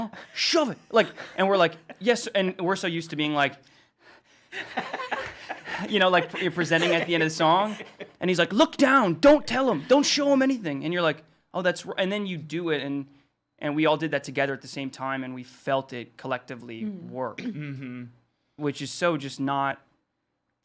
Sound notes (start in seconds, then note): 3.4 panting; 4.5 laughing